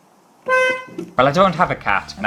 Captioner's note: honk!